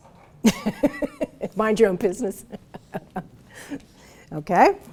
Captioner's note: laughs